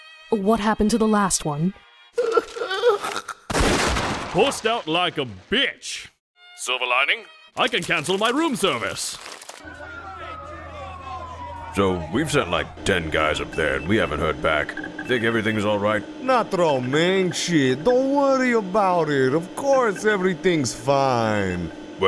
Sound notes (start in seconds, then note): 2.2 whimpering in fear; 3.5 gunshot; 9.6 sirens and shouting